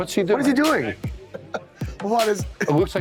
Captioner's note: laughs